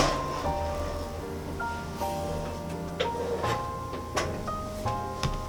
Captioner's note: heated oven